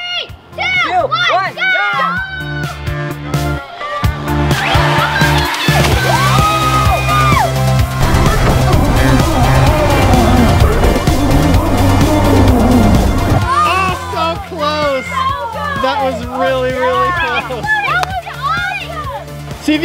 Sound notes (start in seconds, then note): 2.3 upbeat, lively music; 3.7 cheering; 7.8 engine revving